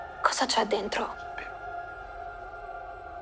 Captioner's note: whispering